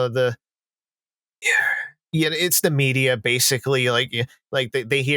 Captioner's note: impatient breath